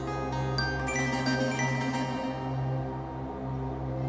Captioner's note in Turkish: telefon çaliyor